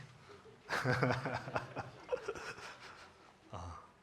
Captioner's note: audience laughing